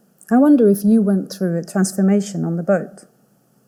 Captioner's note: none